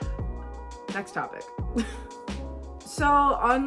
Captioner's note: chuckles